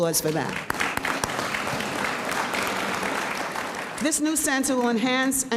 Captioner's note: audience applauds